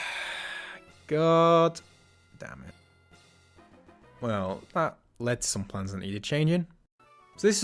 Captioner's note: deep sigh